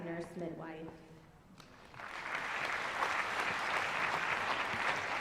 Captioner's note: applause